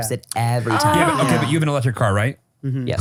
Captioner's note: sighs